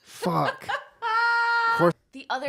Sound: laughter

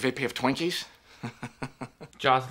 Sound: laughing

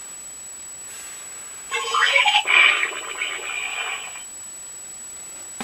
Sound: snarl Sounds

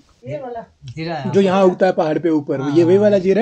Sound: local language

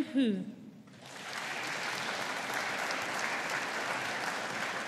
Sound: audience applauding

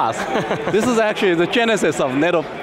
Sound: laughs

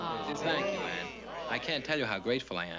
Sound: chatter

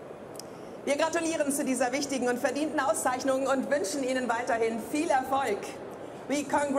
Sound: speaking in foreign language

